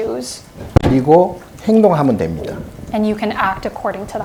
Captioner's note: speaking Korean